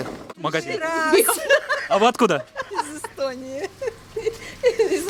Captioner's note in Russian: смеются